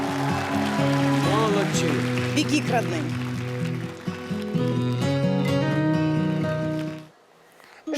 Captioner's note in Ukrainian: оплески